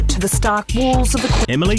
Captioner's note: distortion